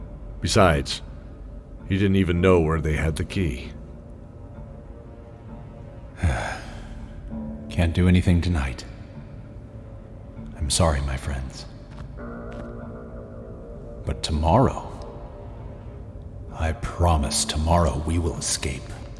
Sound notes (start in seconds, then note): 6.2 sigh